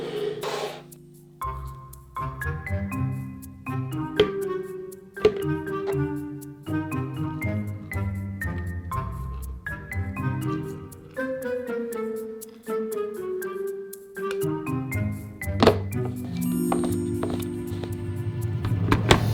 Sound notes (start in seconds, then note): 15.6 lid clanks jar